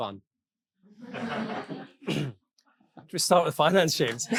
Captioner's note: audience laughing